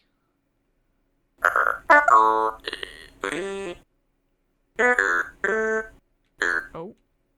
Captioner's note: Synthia making robotic sounds